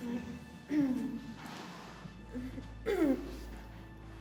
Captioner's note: billie groans